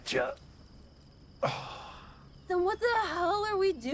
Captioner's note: Sam sighs